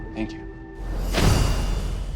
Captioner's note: clanking